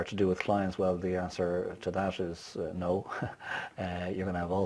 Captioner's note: laughs